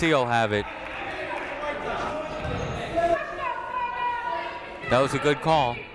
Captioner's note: people shouting in the crowd